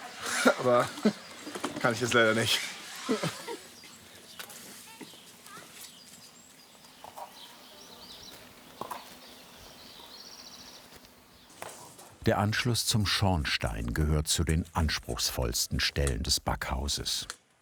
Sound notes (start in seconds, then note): 4.9 children's voices in the background; 7.8 birds chirping